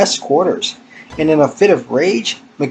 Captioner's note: random loud beep